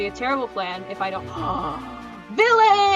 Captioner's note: big gasp